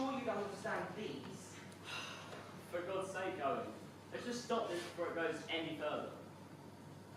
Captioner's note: Ed sighs